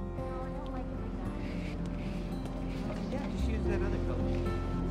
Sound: people chattering

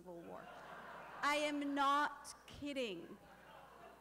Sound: laughter

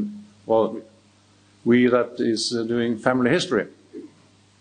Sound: speaks in foreign language

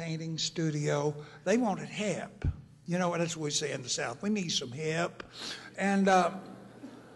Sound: laughter

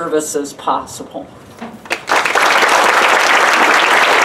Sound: applause

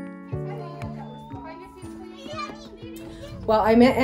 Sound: group chattering

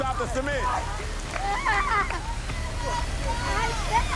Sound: screams

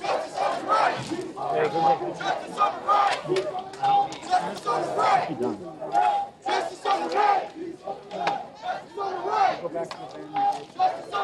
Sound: cheers and applause

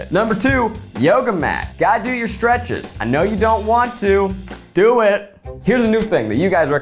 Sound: none

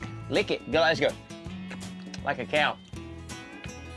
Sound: licking sound

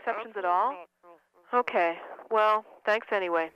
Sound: woman mumbling

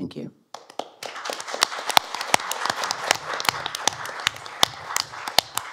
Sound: applause

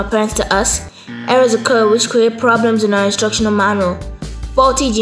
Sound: buzzer

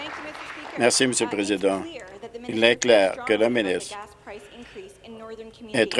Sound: some Applause

